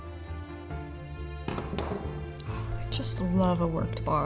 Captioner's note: tool thuds